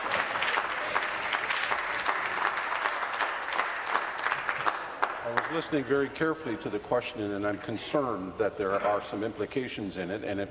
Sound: applause

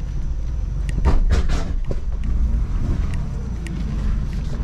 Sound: scraping sound

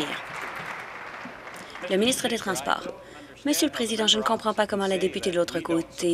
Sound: applause

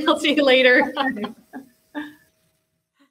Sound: laughs

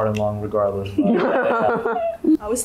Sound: laughter

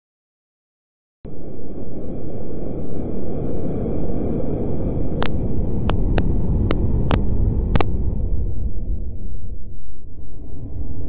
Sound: static sound

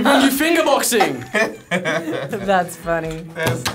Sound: both laugh

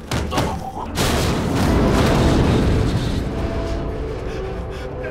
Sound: cracking

